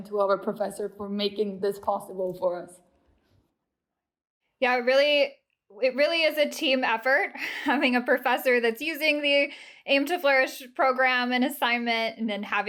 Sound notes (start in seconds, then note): 7.4 laughter